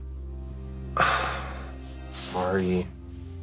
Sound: sighing

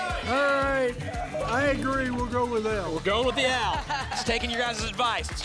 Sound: applause and cheering

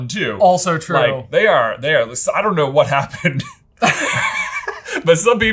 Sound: laughing

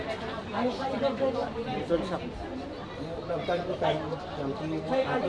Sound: conversations continue

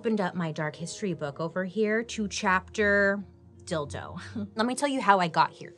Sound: chuckles

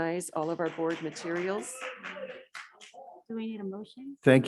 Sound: audience clapping

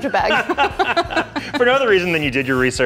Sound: both laughing

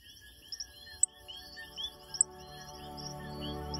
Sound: music, birds and insects chirping

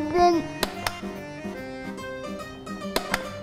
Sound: button clicks; button clicks

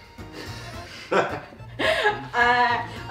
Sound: beautiful lovers' laughter

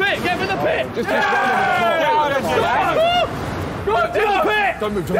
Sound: Sidemen cheering

